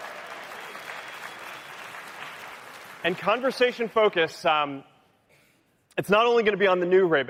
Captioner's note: cheering; applause